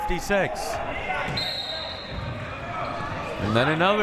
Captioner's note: whistle